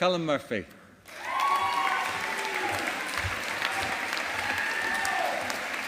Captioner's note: audience applauding